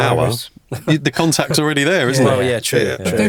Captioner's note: chuckling